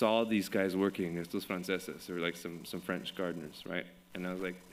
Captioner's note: French language